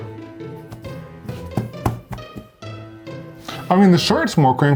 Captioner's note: hand tapping